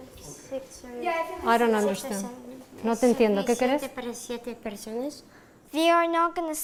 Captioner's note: speaking Foreign Language